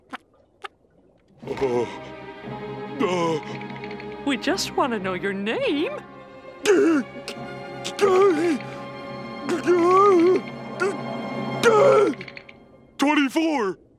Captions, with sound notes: Uh, uh... We just want to know your name! [stuttering] 24!